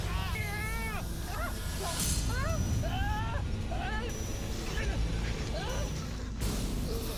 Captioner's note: shouting